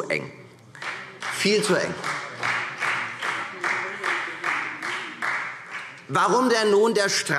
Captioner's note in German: Beifall Freie Demokraten